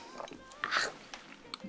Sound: clears throat

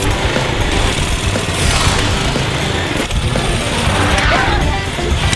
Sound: upbeat rock music; engines roaring

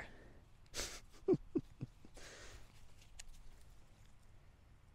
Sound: laughing

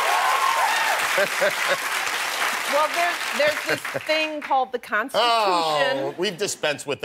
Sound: cheers and applause

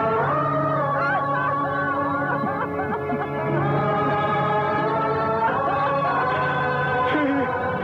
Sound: wailing

